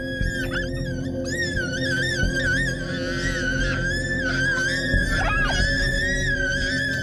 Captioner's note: shrieking loudly